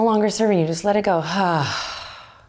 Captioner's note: sighs